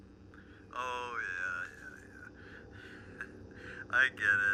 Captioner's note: laughs